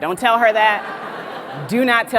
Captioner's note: audience laughs